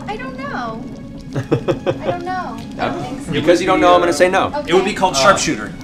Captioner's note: laughs